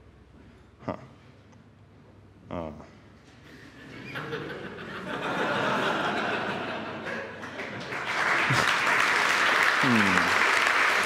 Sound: applause

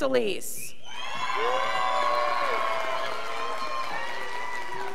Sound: scholars applauding

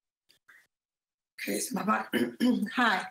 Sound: coughs

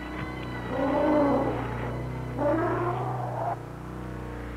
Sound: dinosaur roars

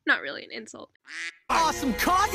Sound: quack

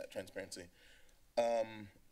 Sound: inhales

